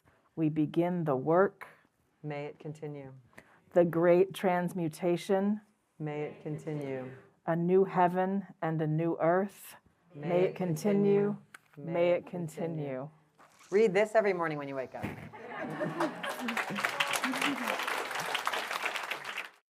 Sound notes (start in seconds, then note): 15.3 laughter; 15.8 applause